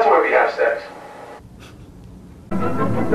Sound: snorts

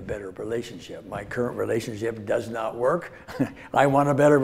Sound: laughs

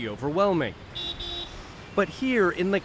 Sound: car horn honking

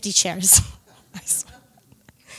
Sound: laughs

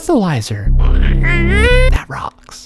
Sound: freaky sounds

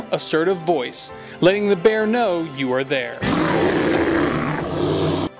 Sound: bear growls

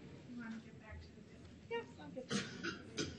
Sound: speaking faintly

